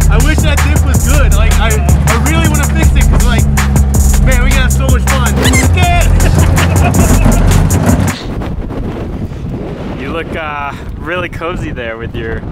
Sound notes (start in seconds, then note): 5.3 laughing; 5.4 beep; 8.1 wind howling